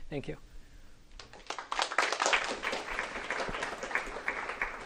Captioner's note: applause